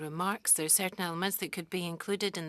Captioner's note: speaking French